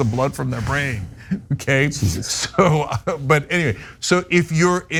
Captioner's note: laugh